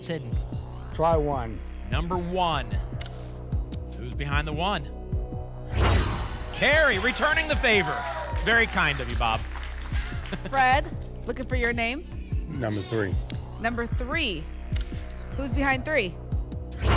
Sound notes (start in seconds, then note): 5.6 whoosh; 16.7 whoosh